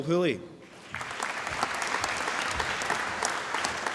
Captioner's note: applause